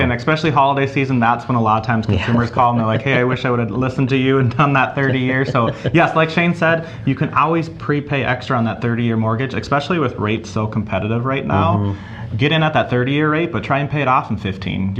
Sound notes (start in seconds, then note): 5.5 laughs